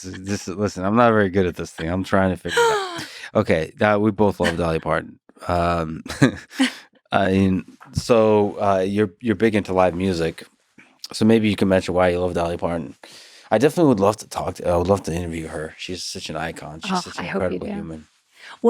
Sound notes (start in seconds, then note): 4.2 laughs